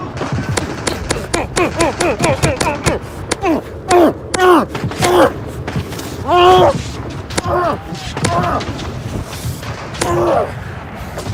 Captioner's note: intense fighting grunts